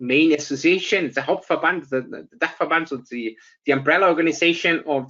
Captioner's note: speaks German